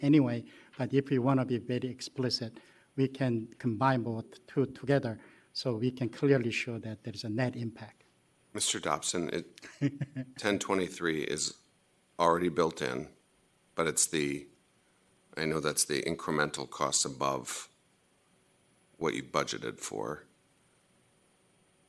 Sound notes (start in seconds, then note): 9.6 laughter